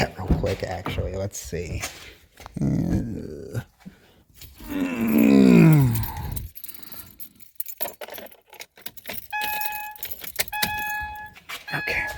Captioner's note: grunts, lol